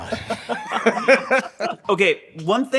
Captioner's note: group laughing